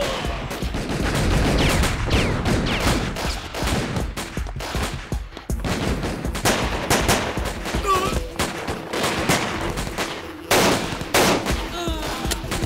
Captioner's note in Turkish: si̇lah sesleri̇